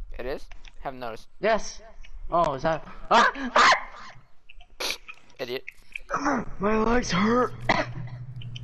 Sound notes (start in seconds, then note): 3.2 screaming; 4.6 snicker; 7.6 cough